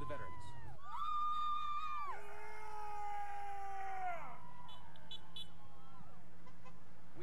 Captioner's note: cadets cheering; vehicles honking